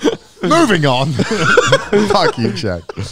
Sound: all laughing

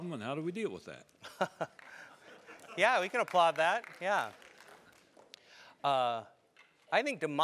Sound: laugh

